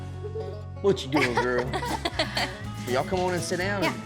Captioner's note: everyone laughing